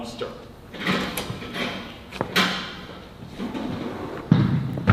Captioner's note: door opens